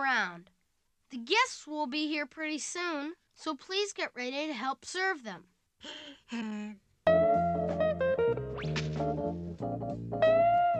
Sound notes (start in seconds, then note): 5.8 Snoopy sighs